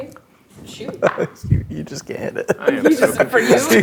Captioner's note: laughing